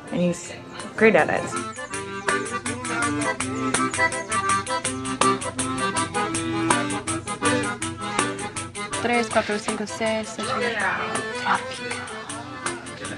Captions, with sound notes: And he's great at it. (upbeat music) (speaking in foreign language) - Tropical. Tropical.